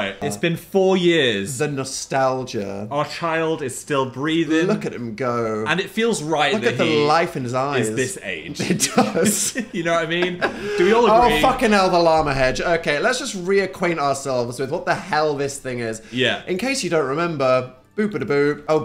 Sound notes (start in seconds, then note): 8.4 laughs